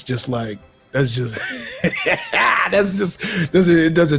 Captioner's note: laughs